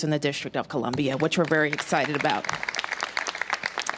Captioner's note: applause